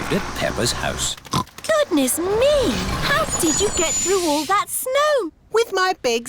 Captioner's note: oinks